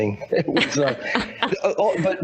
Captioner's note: laughing